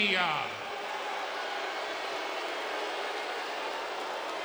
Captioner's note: crowd booing